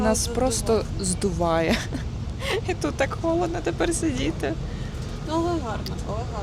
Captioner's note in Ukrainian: сміх